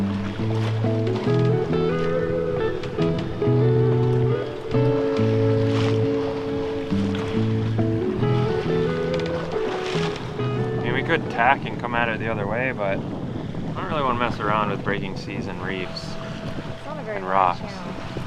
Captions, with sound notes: (gentle music) (water swishing) Ya we could tack and come at it the other way, but I don't really want to mess around with breaking seas and reefs and rocks. - It's not a very